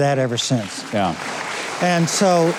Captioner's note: crowd clapping